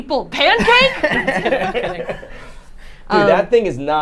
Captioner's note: group laughs